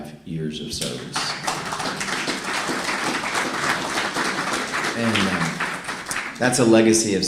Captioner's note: applause